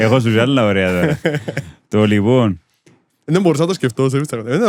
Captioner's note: laughs